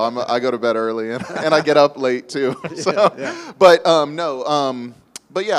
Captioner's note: laughs